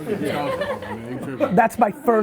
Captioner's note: laughs